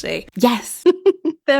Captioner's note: giggling